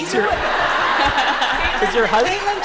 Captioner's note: laughter